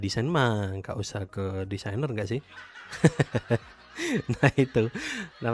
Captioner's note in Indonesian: tertawa